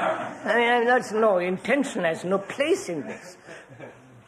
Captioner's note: laughter